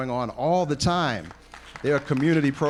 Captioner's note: applause